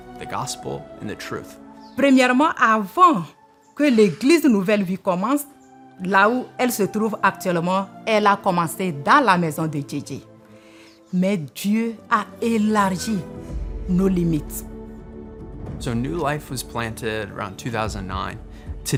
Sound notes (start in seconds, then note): 2.6 speaking French